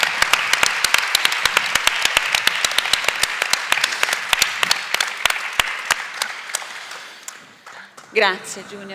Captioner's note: Applauso